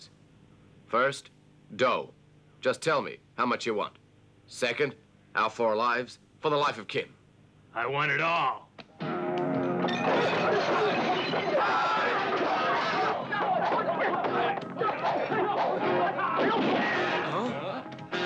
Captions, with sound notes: first, dough, just tell me, how much you want? Second, our four lives for the life of Kim. - I want it all. (clattering) (people yelling) (gun blasts) - Huh?